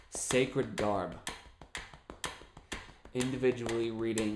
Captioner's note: tapping and ticking sound